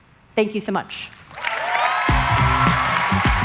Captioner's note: applause